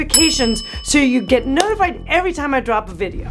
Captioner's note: bell dings